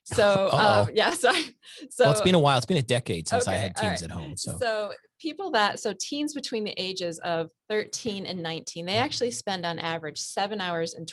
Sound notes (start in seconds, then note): 0.1 laughs; 4.8 laughs